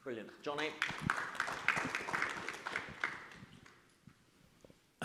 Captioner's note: audience claps